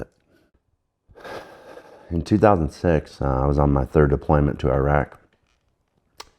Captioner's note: sighs